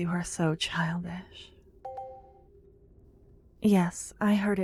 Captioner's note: positive sounding chime in the distance